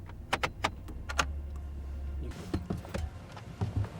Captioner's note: knob rattles